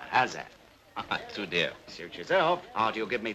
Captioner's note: chuckles